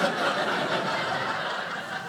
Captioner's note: audience laughing